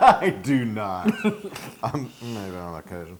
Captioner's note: laugh